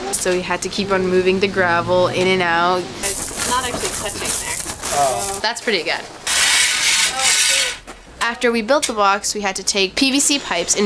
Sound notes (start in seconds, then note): 6.2 shovel scraping on gravel